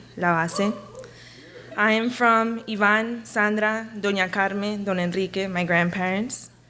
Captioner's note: speaks a foreign language; speaks a foreign language